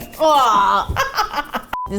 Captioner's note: plhplhplhplh; groans in disgust; cackles